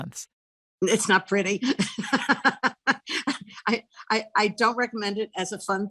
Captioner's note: chuckles